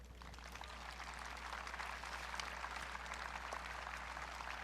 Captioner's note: audience clapping